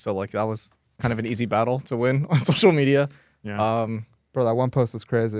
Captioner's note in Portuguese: risos